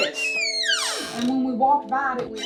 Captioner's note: door creaking